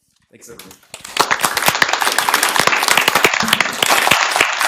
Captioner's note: applause